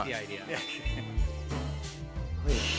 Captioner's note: chuckles